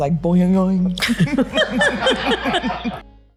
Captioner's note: both laughing